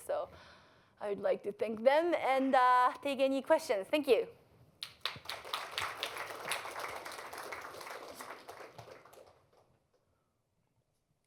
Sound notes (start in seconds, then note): 4.8 applause